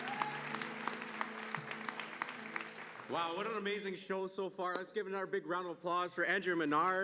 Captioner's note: applause